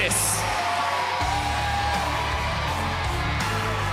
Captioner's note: cheers & applause